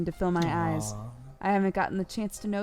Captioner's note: cry